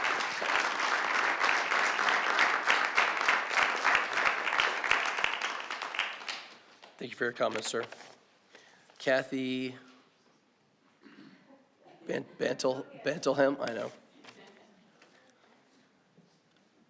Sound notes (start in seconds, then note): 3.6 applause